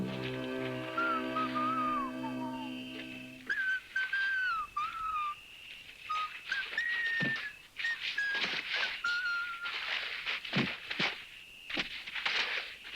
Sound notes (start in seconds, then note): 0.0 Lucky whistling; 1.4 insects chirring